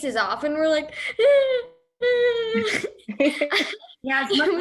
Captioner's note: cries